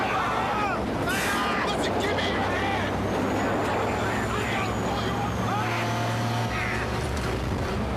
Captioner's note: shouting